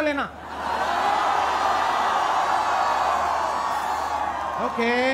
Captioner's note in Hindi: चियरिंग